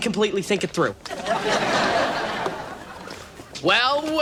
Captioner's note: audience laughs